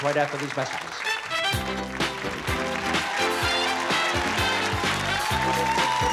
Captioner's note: applause, cheering; theme music playing